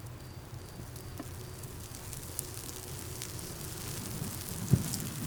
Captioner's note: fire crackling